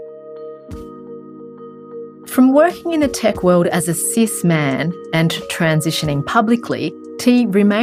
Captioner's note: gentle music; voiceover